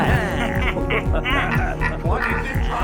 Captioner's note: laughter